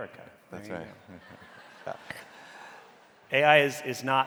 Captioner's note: audience laughing